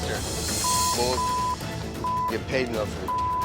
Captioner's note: beep